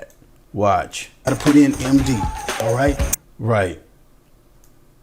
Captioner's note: electronic bing